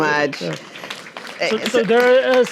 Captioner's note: audience applauding